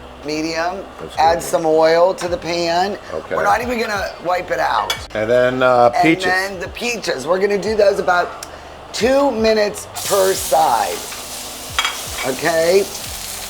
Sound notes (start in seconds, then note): 9.7 sizzling